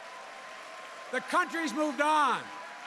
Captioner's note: applause